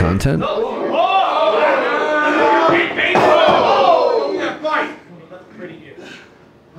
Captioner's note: audience cheering